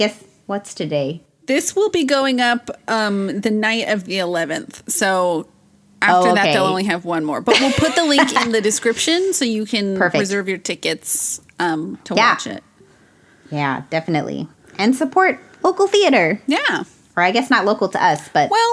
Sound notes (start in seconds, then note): 6.2 laughs